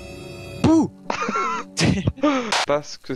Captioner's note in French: Rires